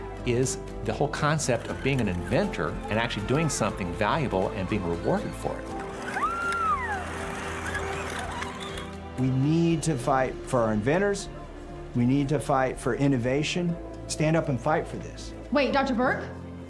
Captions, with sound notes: is the whole concept of being an inventor and actually doing something valuable and being rewarded for it. [mini automatic vehicle moving, child cheering] - We need to fight for our inventors. We need to fight for innovation. Stand up and fight for this. - Wait, Dr. Burke?